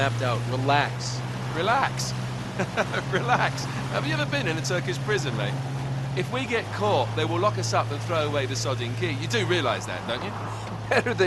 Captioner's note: laughs